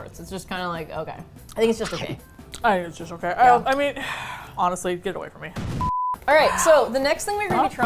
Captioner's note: sighs